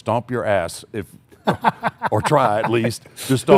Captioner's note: laughs